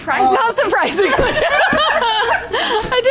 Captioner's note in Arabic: يضحك